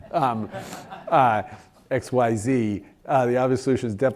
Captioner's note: laugh